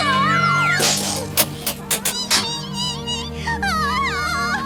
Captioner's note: squeaking